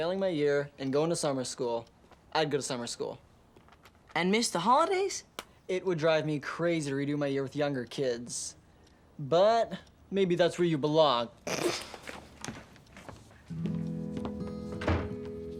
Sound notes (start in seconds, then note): 11.5 snorts